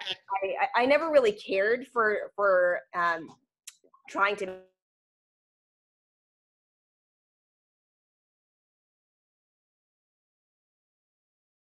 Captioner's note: audio cuts off